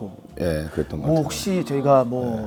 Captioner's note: haha